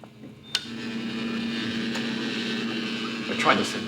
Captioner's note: rectifier whirs